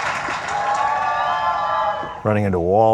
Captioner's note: audience applauds; audience cheering